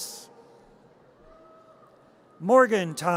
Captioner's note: audience cheers